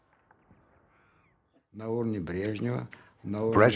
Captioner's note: speaking Russian